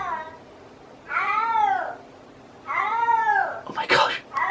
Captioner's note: "starving" cat bellowing